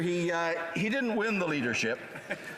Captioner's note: laughter